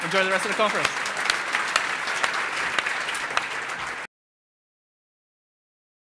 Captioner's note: applause